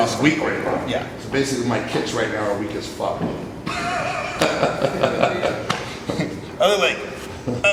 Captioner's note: laughs